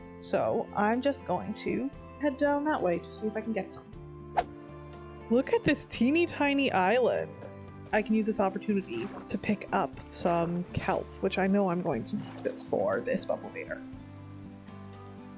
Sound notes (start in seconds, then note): none